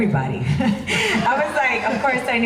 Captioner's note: laughs